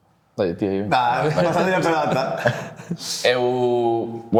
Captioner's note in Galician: risas